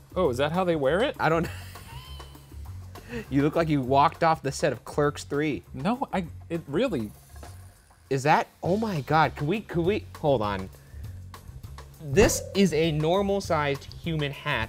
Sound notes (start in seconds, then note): 1.7 wheezing laughter